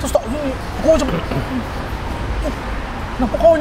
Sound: choking

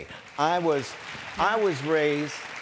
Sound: applause

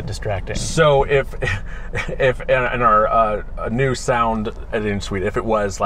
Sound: laughs

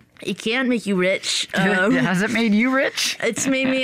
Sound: chuckles

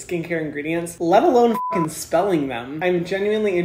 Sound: beep

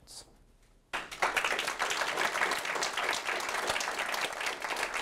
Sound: audience clapping

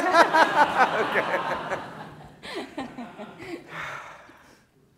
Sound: all laughing

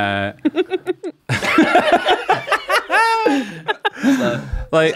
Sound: how much sleep have these people had laughter

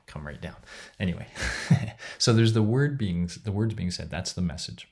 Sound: chuckles

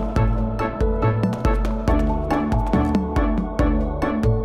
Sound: footsteps

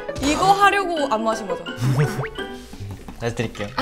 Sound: haha

